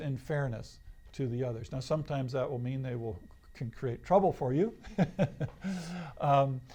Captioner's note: laughs